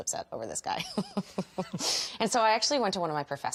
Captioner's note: chuckles